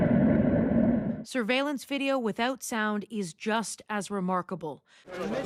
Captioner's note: explosion